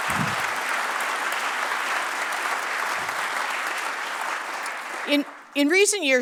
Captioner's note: applause